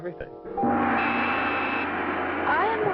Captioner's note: gong sounds